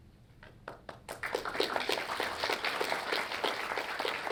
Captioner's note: audience clapping